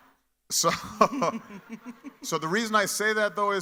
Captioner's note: audience laughing; laughs